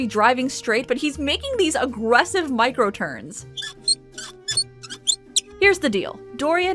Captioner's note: steering wheel squeaks